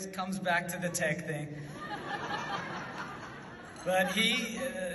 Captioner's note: audience laughs